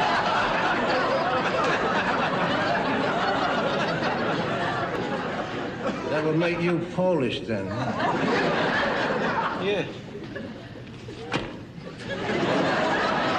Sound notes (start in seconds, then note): 11.8 laughter